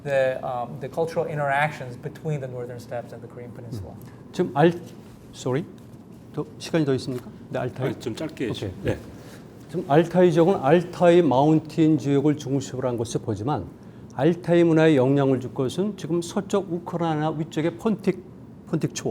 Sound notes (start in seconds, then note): 4.6 speaking in Korean; 6.5 speaking in Korean; 9.9 speaking in Korean